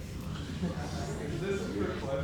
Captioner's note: audience murmurs